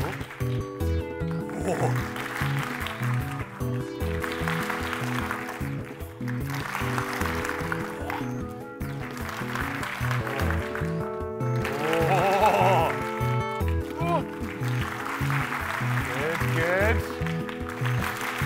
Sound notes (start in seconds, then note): 0.0 clapping; 1.3 mellow music; 3.6 clapping